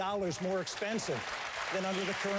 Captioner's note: applause